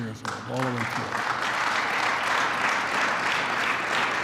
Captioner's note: applause